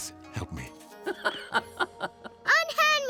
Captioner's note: laughing